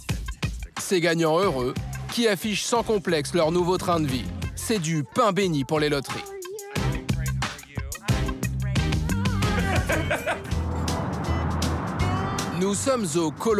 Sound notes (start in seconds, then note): 9.2 laughs; 10.3 upbeat music